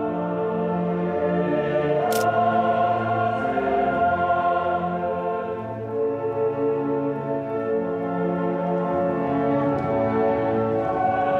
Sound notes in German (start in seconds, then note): 2.1 Klicken